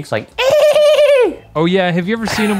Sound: imitates dolphin screech

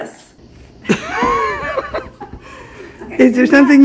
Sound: laughing

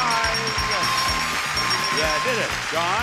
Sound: audience applauds

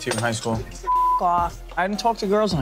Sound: beep

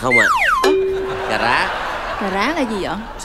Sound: rings

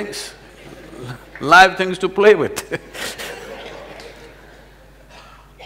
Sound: laughter; laughs

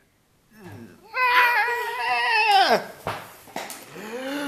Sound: screaming

